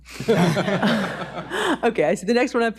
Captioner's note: audience laughs